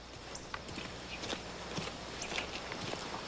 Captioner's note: chirping of birds